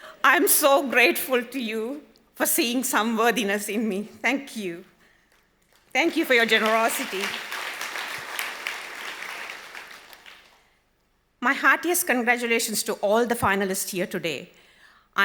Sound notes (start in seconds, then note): 7.8 audience applause